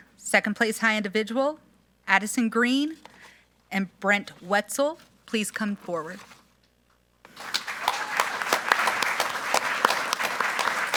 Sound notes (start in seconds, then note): 7.2 group applauding